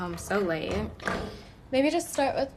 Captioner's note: door opening